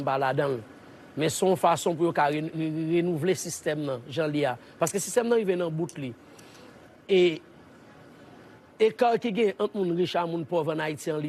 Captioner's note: speaking in a global language